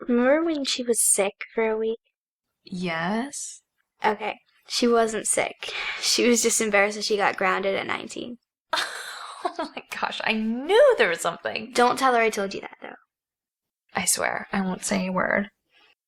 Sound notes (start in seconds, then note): 8.7 Corrine laughing